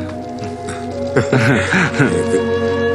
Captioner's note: chuckles